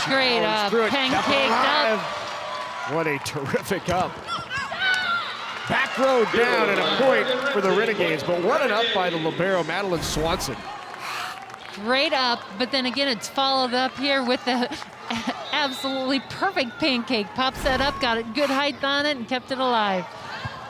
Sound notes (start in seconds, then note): 4.8 audience cheering